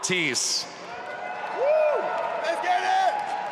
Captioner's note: audience applauding